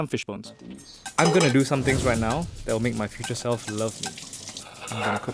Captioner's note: voiceover